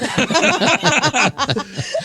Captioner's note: laughing